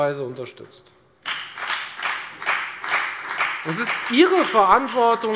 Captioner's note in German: Beifall bei der FDP